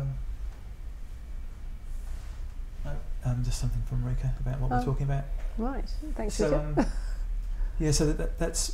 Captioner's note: laughs